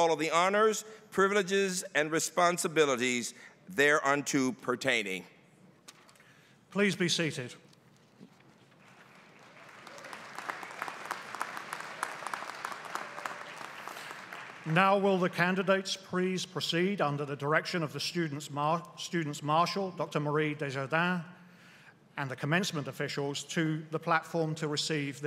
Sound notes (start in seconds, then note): 8.8 applause